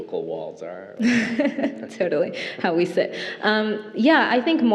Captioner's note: laughs